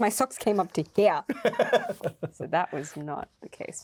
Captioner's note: Luke laughing